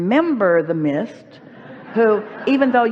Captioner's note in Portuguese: A plateia ri